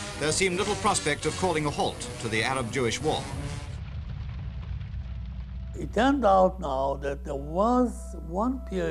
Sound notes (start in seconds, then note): 2.7 fire burning